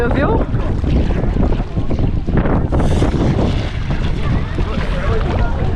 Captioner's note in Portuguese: vento e marulho